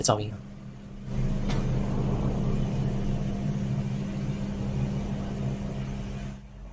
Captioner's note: Distant 1006 Knock